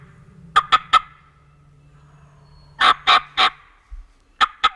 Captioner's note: turkey call